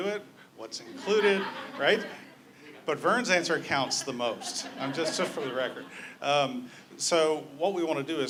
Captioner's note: laughter